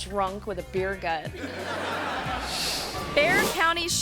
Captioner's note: audience laughing